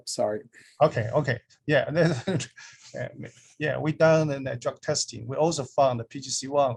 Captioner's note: laughs